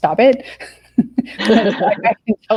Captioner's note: laughing